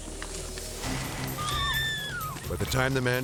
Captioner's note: hostage screaming